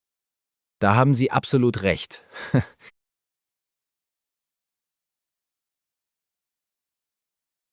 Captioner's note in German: lacht